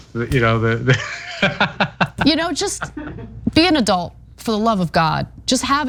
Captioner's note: laugh